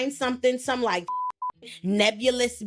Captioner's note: beep